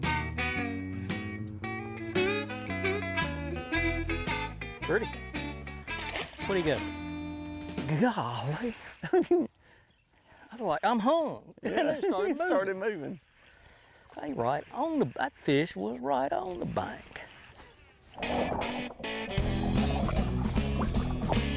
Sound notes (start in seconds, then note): 0.0 relaxed country music continues; 5.3 water splashing; 8.6 laughing; 8.6 laughs; 11.6 laughs; 17.5 water churning; 18.6 upbeat rock music